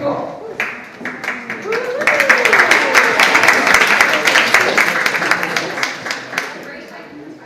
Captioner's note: audience applauds